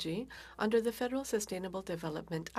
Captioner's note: speaking French